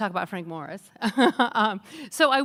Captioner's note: laughs